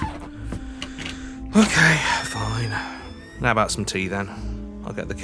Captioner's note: sighs